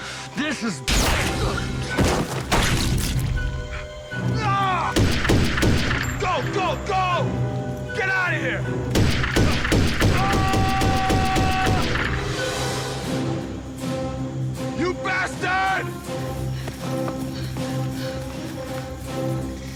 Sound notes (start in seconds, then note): 4.9 gunshots; 8.9 gunfire, screaming